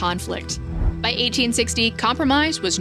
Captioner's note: graphic whooshes